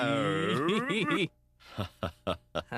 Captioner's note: chuckles